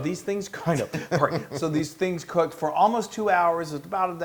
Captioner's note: laugh